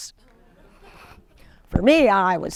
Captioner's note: audience laughing